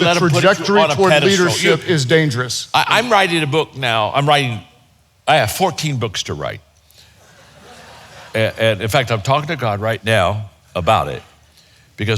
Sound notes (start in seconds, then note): 7.2 audience chuckles